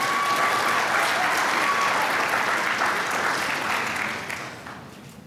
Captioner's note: applause